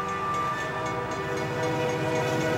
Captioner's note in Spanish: Sonido del tren